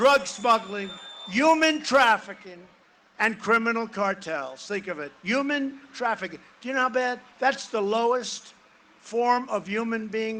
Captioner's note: cheering and applause